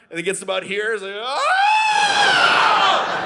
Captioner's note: screams in pain; audience laughing